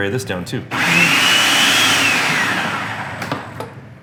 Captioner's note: whirring